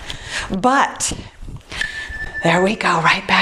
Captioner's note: timer beeps